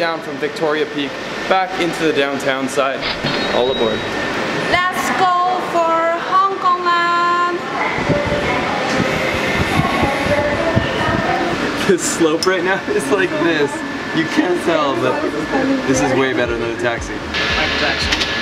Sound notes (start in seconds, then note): 8.0 whistles weakly